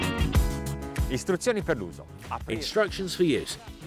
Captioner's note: speaks in foreign language